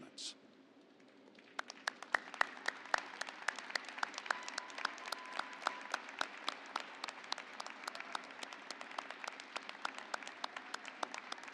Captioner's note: applause